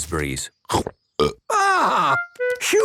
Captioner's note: burps